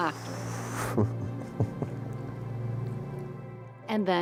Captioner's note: chuckles